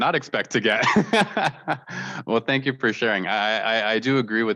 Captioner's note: laughter